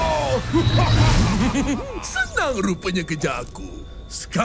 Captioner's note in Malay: ketawa